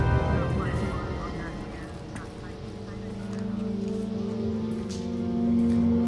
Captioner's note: echoing footsteps